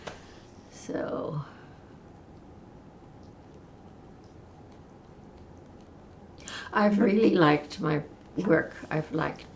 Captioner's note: pauses 6 seconds